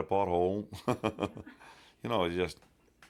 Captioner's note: chuckling